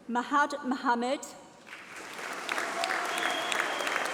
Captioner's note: applause